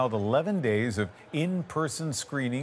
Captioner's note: applause